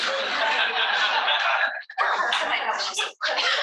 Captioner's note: all laughing